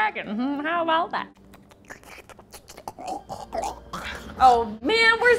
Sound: making mouth noises

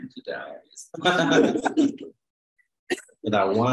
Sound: laughter

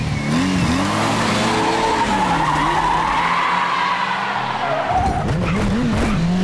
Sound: tires screeching

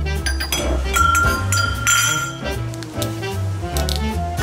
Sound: glasses clinking

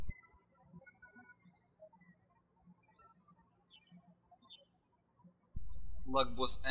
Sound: birds chirping

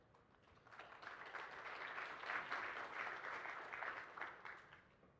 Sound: applause

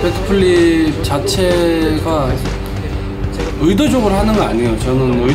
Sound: speaking in foreign language

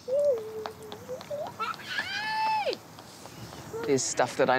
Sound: squeals playfully

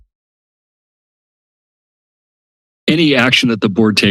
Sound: silence

